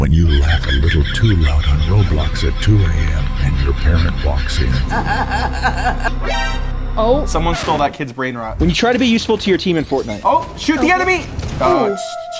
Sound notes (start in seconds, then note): 6.9 dramatic anticipatory chord; 6.9 person laughing